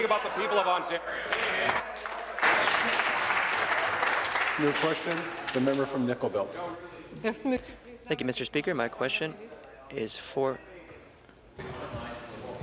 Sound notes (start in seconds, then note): 4.5 applause; 9.4 speaking in French